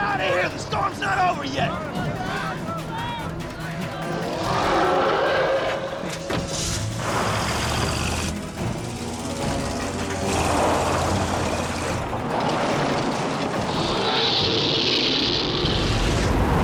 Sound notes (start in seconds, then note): 4.1 roars; 6.5 tires screeches; 13.6 loud roars